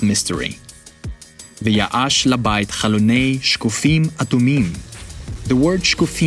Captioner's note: speaking in Hebrew